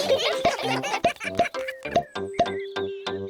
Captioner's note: all giggling